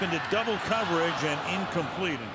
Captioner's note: crowd groans